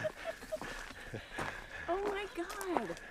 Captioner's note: laughing